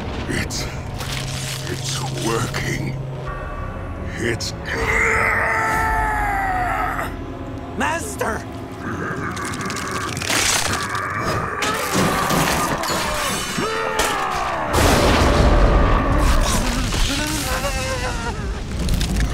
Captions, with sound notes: It- it's working. It's- [groaning loudly] Master? [grunting] [buzzing]